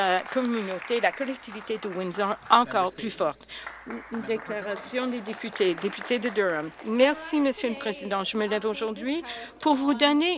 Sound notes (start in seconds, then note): 3.5 applause